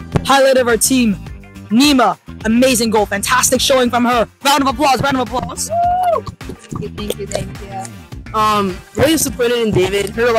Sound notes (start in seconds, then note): 5.6 claps